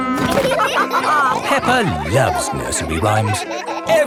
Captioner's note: all laughing